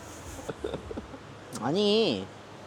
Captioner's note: crackling